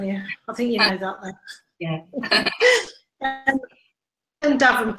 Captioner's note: laughing